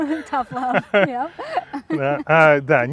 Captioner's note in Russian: смех; смеются